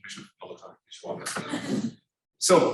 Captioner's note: students laughing